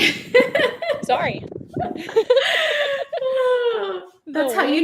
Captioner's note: laughing